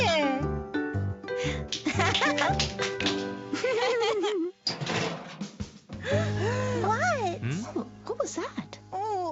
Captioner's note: laughter